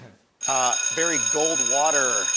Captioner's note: alarm ringing